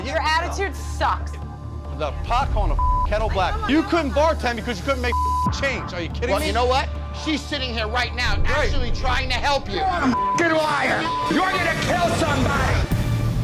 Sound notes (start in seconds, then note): 2.7 beep; 5.1 beep; 10.0 beep